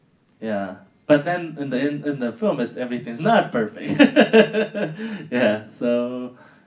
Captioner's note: laughing